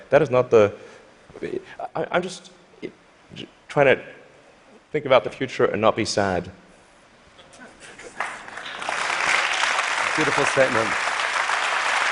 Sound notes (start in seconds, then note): 8.2 applause